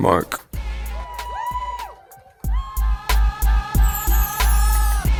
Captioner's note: crowd cheering